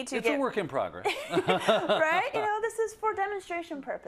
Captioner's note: laugh